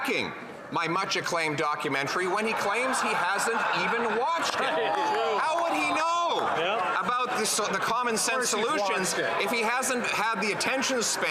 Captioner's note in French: voix de l'interprète